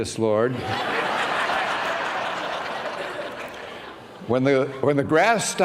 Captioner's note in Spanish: risas